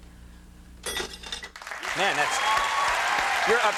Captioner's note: audience clapping and cheering